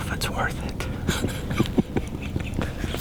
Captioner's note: laughing